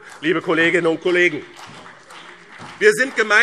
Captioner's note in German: Vereinzelter Beifall BÜNDNIS 90/DIE GRÜNEN und CDU